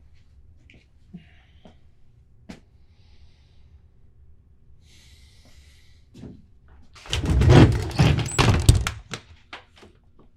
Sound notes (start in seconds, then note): 7.0 door sliding closed